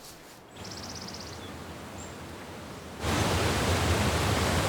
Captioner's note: waterfall rumbling